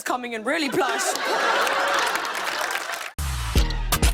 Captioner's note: laughter and applause